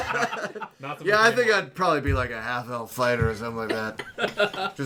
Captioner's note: laughter; generic Dad Voice; laughter